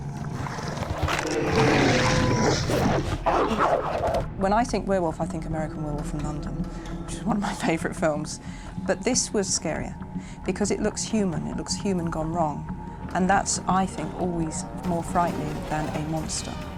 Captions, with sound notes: [GROWLING] When I think werewolf, I think American Werewolf in London... ...which is one of my favourite films. But this was scarier because it looks human, it looks human gone wrong. And that's, I think, always more frightening than a monster.